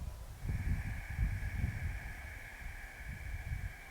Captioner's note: exhales deeply